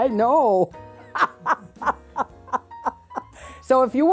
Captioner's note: laughs